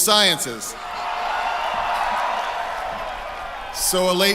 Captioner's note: cheering